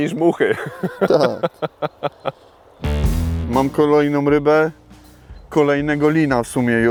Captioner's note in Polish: śmiech